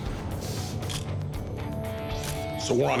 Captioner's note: camera shutter click